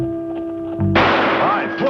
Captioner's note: gunfire